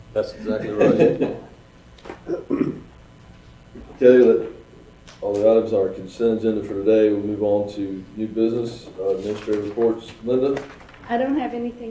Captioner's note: laughing